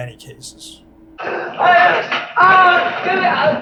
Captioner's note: man hollers